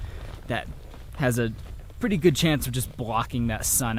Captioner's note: hiking footsteps